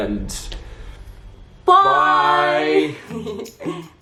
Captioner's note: laughs